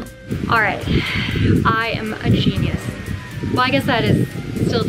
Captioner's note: sighs